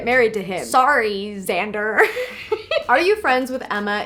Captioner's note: laughs